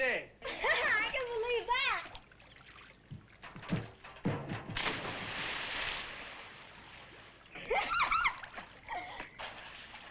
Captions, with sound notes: - (laughs) I can believe that. (water splashes) (Jane giggles)